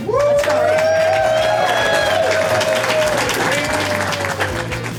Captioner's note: crowd clapping and cheering